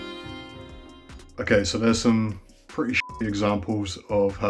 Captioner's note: beep